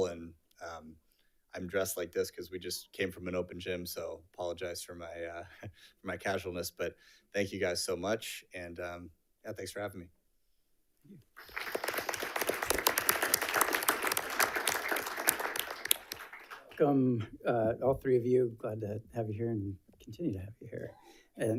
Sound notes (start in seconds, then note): 11.3 audience applauds